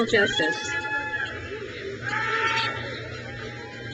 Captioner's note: crowd cheers